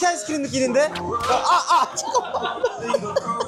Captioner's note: bonk